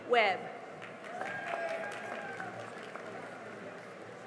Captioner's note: cheering and applause